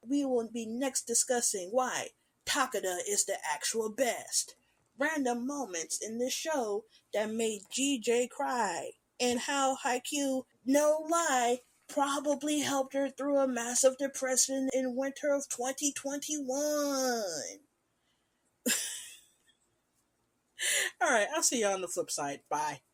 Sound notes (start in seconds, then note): 18.7 laughing